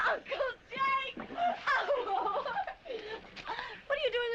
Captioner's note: laughing